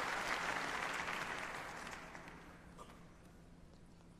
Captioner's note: applause